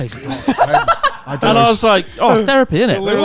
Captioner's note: laughs